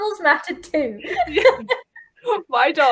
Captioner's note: laughing